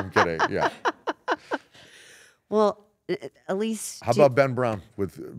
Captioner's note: laugh